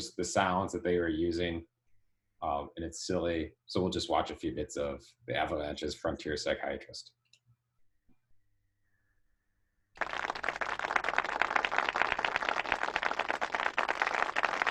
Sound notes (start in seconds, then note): 9.9 audience claps